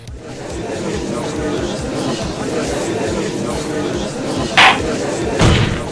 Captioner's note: gallery chattering; gavel slams!